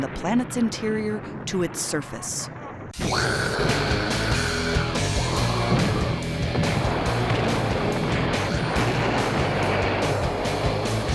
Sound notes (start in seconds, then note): 2.9 imitating explosions; 5.7 techno music plays